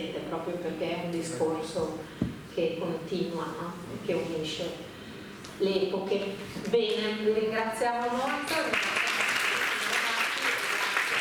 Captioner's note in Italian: Applauso